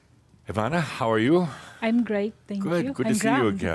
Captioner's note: she giggles